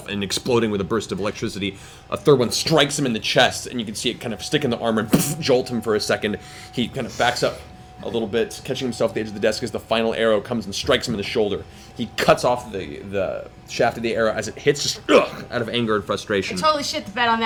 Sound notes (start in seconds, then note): 5.5 boof; 15.0 grunts